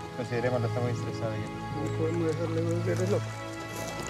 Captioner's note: Spanish language